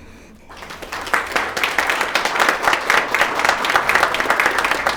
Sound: attendees applauding

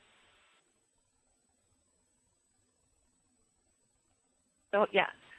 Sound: pause

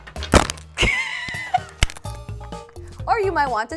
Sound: laughs

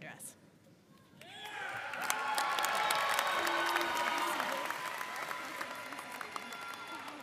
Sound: audience cheering and applauding

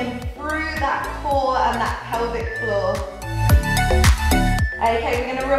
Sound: timer beeping

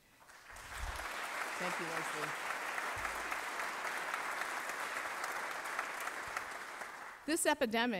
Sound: applause

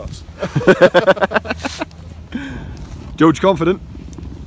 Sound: laughs

